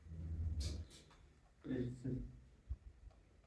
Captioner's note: snorts